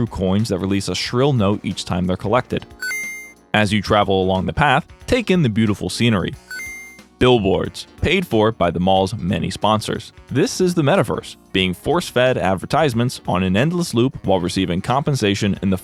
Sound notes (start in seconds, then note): 2.7 earth-shattering DING; 6.8 ding